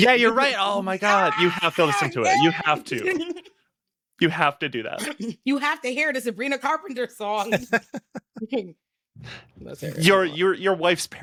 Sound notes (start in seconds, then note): 7.4 laughing